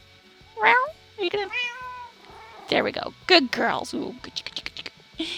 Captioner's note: cats meow